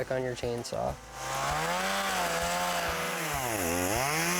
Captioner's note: motor revs and purrs